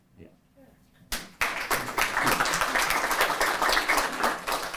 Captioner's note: applause